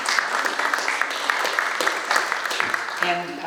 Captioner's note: audience applauds